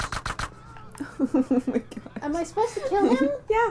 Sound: laughing

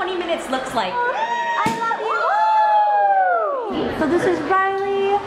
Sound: cheering

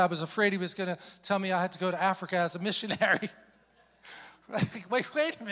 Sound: chuckles

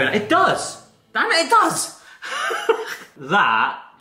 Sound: wheezes

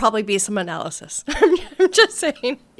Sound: laughing

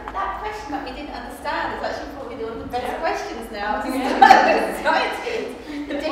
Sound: laughs

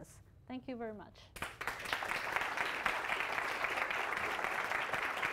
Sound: applause

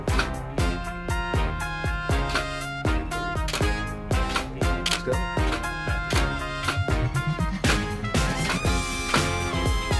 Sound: camera snapping

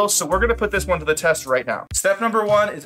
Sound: none

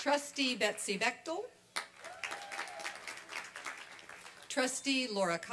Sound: applause and cheering

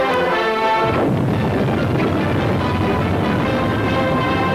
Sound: explosion booming

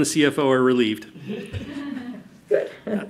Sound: audience laughs

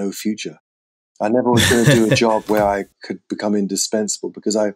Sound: laughter

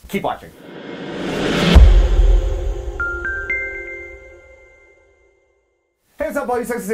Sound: logo poofing; chimes tinkling

